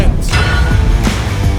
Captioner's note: upbeat rock music; logo thumping